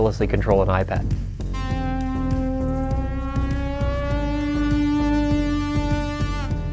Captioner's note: electronic Tone